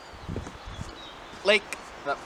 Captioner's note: pat